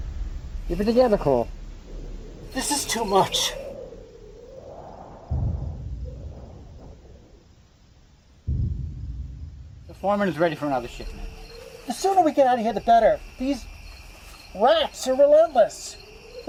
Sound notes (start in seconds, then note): 4.1 insects chirping; 4.1 wind whistling